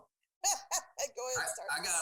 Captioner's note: chuckling